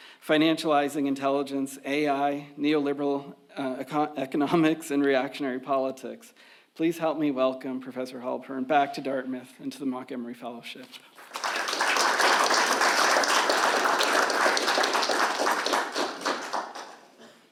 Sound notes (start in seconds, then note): 11.1 audience applauds